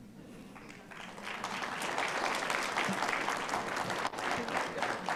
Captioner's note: audience applauding